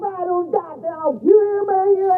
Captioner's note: muffled yelling